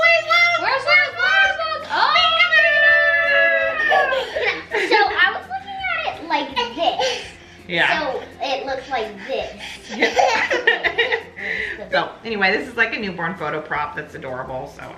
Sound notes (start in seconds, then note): 9.8 laughs